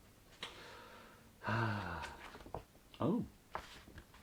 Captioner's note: sighs